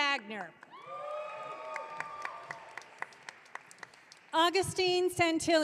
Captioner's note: audience cheering